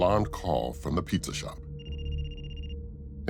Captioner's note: phone ringing